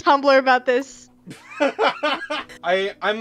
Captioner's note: laughing